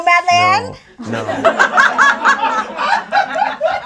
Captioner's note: audience laughs